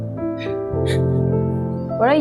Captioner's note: laughing